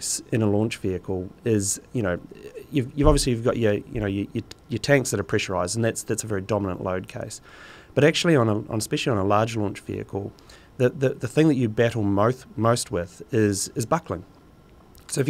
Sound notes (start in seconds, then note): none